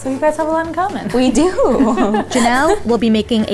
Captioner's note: chuckles